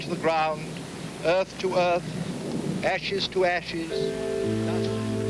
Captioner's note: minister's voice fades